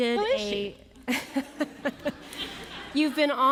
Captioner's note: laughter